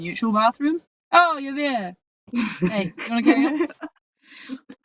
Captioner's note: giggles